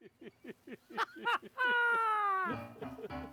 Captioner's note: laughing; cheerful piano music